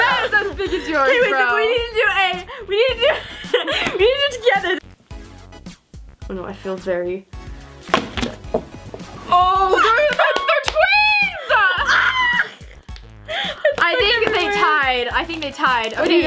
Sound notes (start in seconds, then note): 11.4 screaming